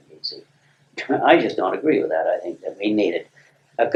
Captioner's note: laughs